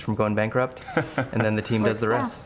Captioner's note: laughs